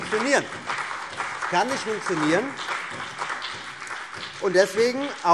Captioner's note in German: Beifall